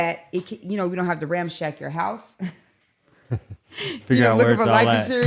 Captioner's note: laughs